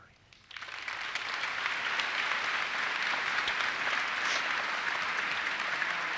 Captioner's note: audience applauses